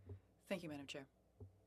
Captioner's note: speaking French